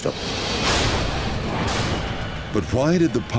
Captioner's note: plane crashes